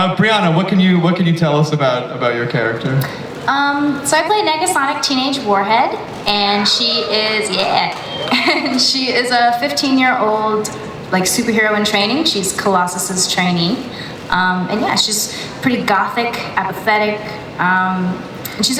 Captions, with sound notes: - Brianna, what can you tell us about your character? - Um, so I play Negasonic Teenage Warhead, and she is, (audience applauds) yeah. She is a 15-year-old, like, superhero in training, she's Colossus' trainee, and yeah. She's pretty gothic, apathetic.